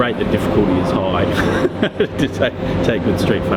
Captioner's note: laughs